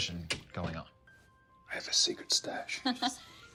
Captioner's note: laughs